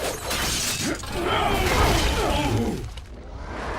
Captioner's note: both grunting